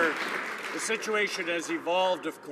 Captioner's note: applause